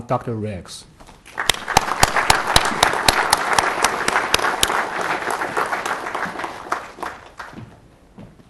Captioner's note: applause